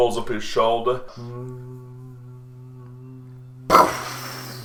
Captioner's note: Predator aiming reticule noise